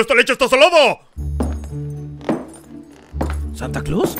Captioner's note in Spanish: Pisadas